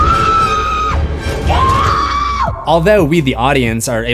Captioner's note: screams